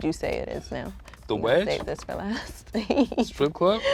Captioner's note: laughs